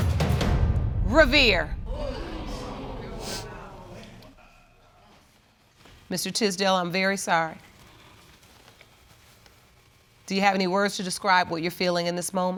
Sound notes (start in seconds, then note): 1.8 audience exclaims